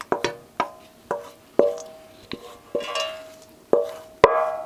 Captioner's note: metal clanging